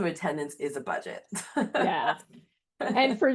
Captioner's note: laughs